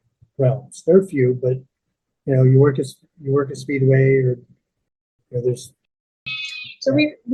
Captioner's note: sheep bleating